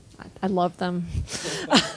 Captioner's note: laughing